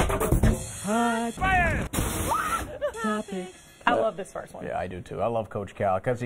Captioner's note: laughter